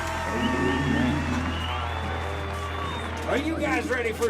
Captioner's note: crowd cheers